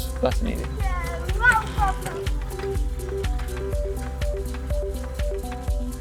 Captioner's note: speaks in foreign language